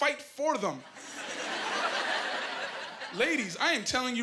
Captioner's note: laughing